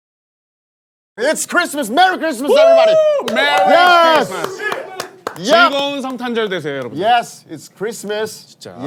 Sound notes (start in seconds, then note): 2.5 everyone cheering